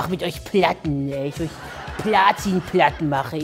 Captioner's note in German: Mit Dieter-Stimme